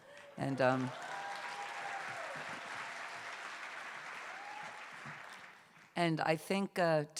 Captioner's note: cheers and applause